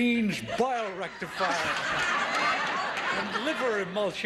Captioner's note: audience laughing